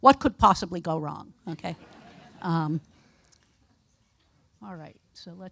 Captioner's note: audience laughing